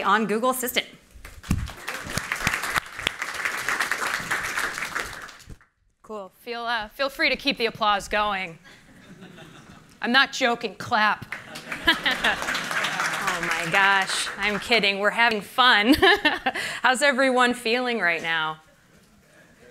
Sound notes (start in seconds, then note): 1.2 applause; 11.2 applause; 11.4 laughter; 15.8 laughter